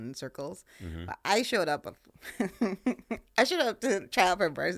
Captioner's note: laughing